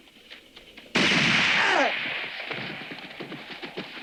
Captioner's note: gun roars